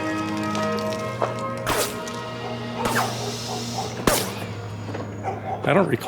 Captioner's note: gun shots